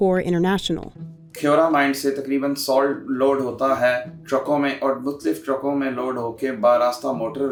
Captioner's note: speaks in a foreign language